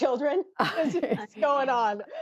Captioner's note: laughter